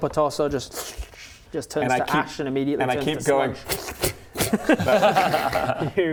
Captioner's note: pfft pfft pfft